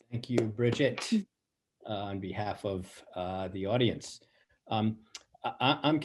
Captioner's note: claps